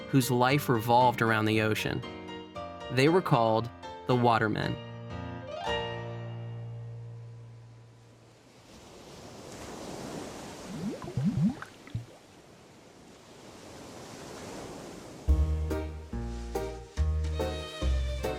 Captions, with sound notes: whose life revolved around the ocean. They were called the watermen. (waves crashing) (happy music)